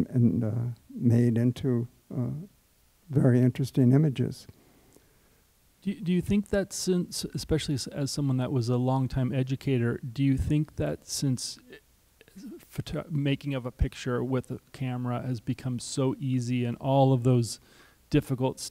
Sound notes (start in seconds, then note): none